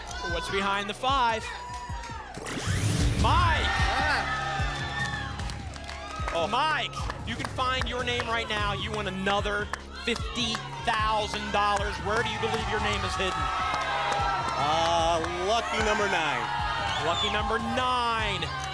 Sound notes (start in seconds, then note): 4.1 applause; 13.5 audience shouting numbers